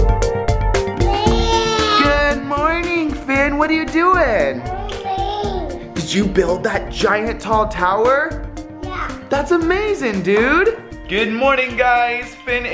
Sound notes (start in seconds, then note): 1.0 babbling